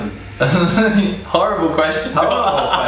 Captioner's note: laughing